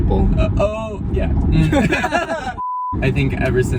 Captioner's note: laughing